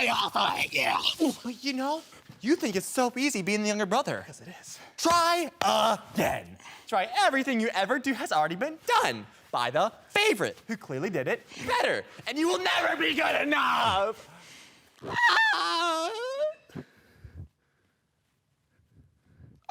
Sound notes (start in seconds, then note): 14.2 heavy breathing; 15.0 screaming; 16.7 heavy breathing